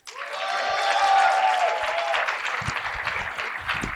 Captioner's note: applause